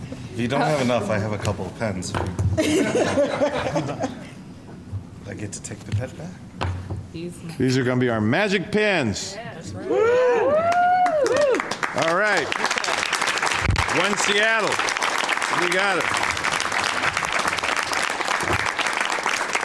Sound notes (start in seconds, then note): 9.8 cheers and clapping